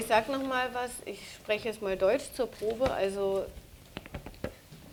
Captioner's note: speaking german